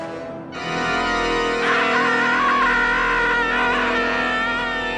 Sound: screaming

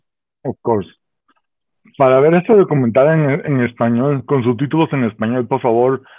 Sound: speaking Spanish

